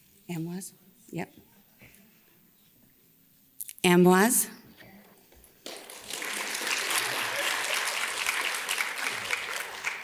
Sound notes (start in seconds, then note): 5.6 audience claps